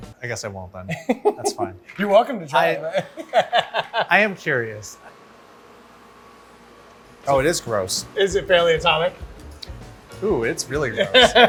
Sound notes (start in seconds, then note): 2.9 laughs heartily; 11.3 upbeat music